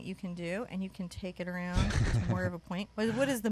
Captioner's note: laughs